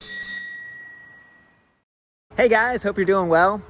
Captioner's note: bike bell